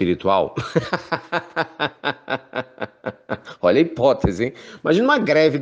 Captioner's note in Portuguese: risadas